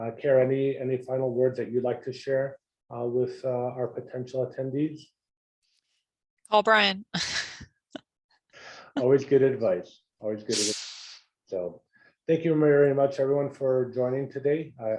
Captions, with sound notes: Care me and the final words that you'd like to share with our potential attendees. >> All Brian. [LAUGH] >> Always good advice. Always good. So, thank you very much everyone for joining today.